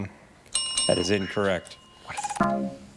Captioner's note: bell dinging; buzzer buzzes